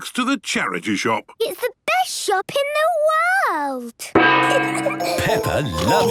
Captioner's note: kids giggling